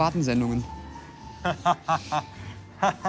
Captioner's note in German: Gekünsteltes Lachen